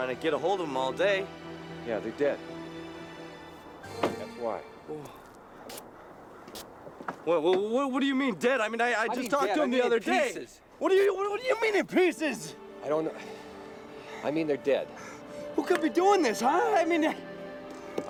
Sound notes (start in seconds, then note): 5.0 dramatic music; 6.0 wind howling